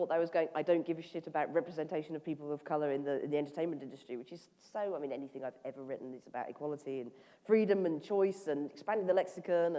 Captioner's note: none